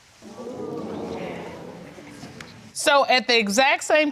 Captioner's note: audience exclaiming